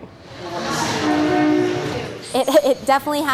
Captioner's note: train honks